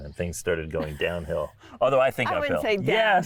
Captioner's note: laughing